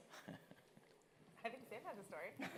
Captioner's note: laughing